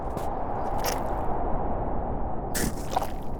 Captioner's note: drips